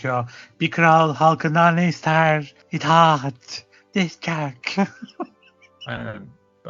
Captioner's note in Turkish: kahkaha